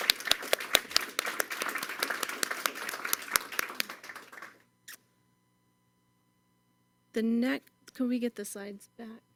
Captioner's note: applause